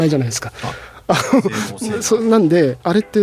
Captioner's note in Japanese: 笑い